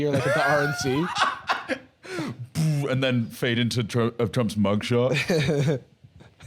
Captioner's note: laughs; laughs